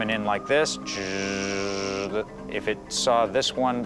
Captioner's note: imitates motor whirring